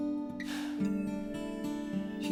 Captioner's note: exhales